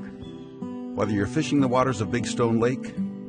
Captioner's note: voiceover